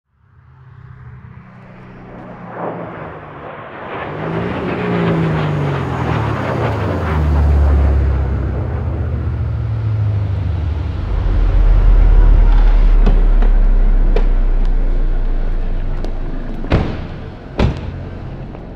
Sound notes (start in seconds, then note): 0.7 airplane roaring; 0.7 engine rumbling; 13.5 doors clicking; 13.5 doors slamming